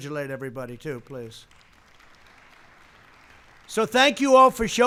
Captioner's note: applause